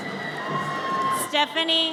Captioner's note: audience cheers